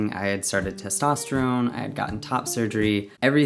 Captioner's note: none